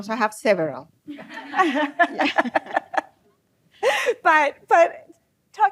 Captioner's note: laughs